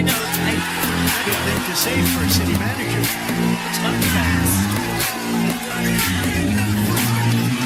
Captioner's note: Aplauze